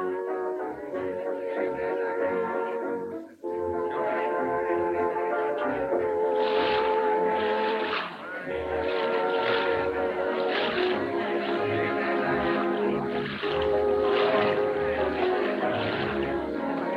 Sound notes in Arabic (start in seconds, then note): 1.5 الناس يتحادثون; 7.0 رش الماء; 13.2 تستمر الموسيقى الهادئة